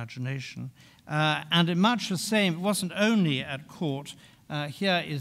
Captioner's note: speaking in French